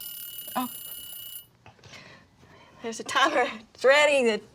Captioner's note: timer ringing